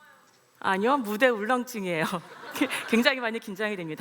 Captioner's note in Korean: 웃음